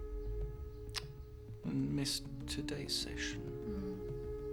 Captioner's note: tuts